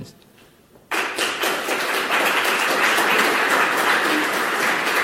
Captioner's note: audience applauding